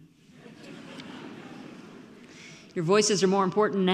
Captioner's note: audience laughs